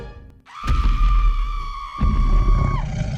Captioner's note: screaming; growling